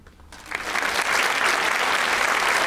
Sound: applause

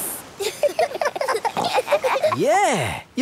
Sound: giggling

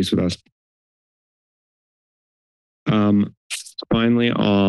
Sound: silence

